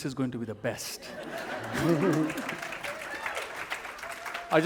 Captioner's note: laughter